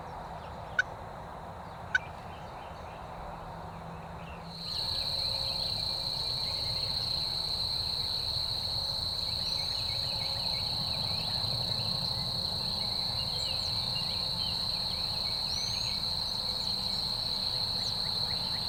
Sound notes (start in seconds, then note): 4.1 birds chirp; 4.1 insects chirp